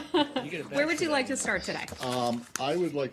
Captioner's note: laughter